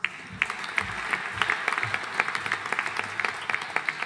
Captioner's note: audience applauding